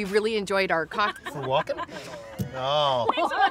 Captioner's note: staff laughing